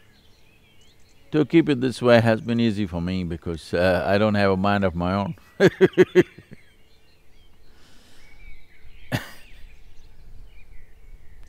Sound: laughs

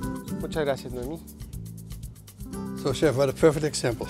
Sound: in Spanish

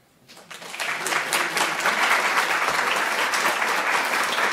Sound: audience clapping

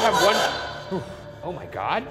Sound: garbled voice speaks from spirit box

